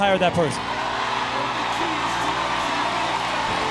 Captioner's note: cheering